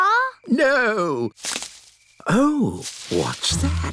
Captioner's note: rustling